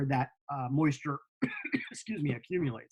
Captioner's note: coughing